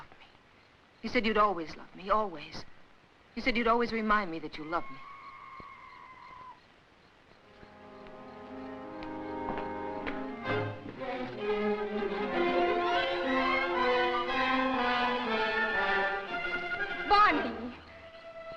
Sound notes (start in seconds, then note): 4.7 screeching in the jungle; 11.4 suspenseful music